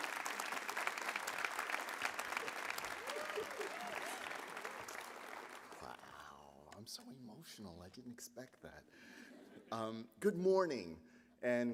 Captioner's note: applause